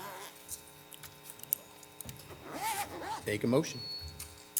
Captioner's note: zipper buzzing